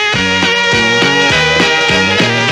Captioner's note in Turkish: Yaşa bravo sesleri, alkışlar